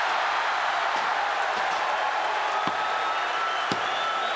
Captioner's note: audience cheering